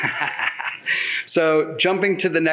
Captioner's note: laughs